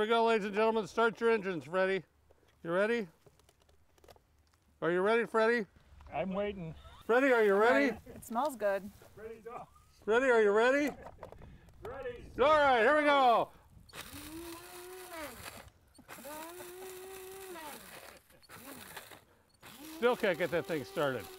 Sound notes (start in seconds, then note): 13.6 laughing; 13.6 machine whirring